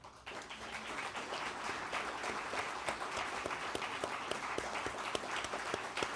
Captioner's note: applause